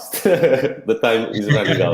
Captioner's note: laughing